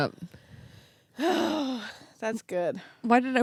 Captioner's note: sighs